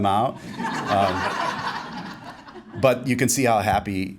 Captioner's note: laughing